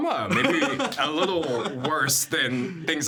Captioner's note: laughing